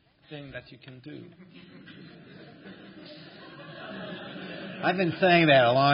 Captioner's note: laughter